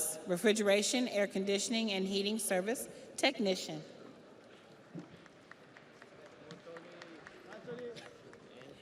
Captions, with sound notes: Andrew Gonzalez, Refrigeration, Air Conditioning and Heating Service Technician. (audience applauds)